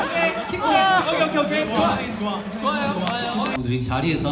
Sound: is cheering for him

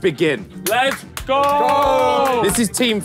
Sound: group clapping

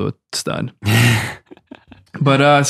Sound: Fr. Innocent guffaws

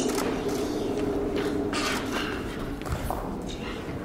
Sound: wind howling

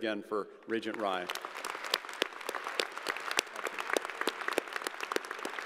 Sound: crowd applauding

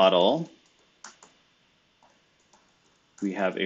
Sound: computer keyboard clicking

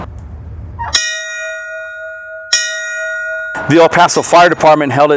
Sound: bell ringing

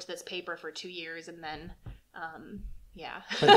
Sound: laughter

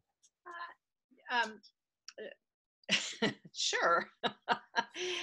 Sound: laughs

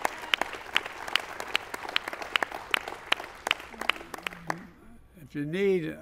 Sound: applause

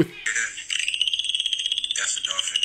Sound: dolphin squeaking noises

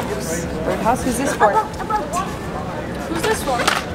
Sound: excitedly murmuring

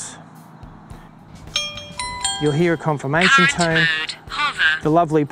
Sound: digtal tone sounds

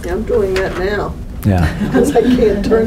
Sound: laughter

